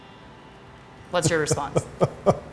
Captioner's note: laughter